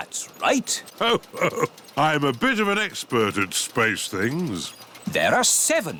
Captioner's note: chuckles